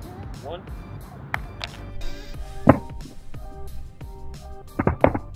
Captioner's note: phone clatters